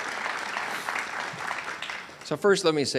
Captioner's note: audience cheers and applauds